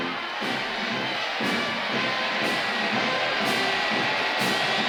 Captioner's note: townsfolk cheering